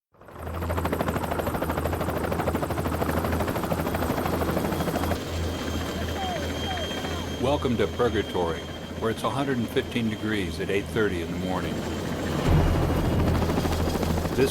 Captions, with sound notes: [Sound of helicopter rotors] - [Voiceover] Welcome to Purgatory, where it's 115° at eight-thirty in the morning.